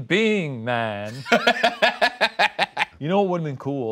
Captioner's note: laughing